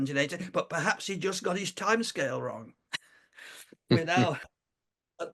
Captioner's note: laughs